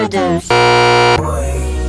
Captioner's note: stutter loop